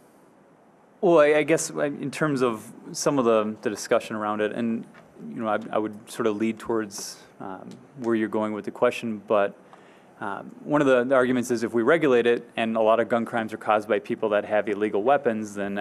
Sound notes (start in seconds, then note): none